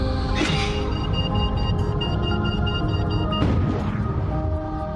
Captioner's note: milometer beeping